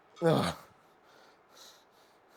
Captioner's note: grunts